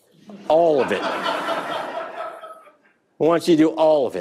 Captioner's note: audience laughing